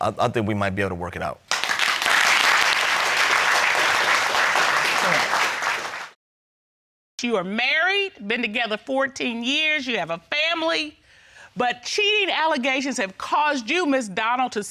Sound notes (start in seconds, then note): 1.4 applauding